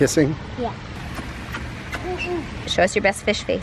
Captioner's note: kissing noises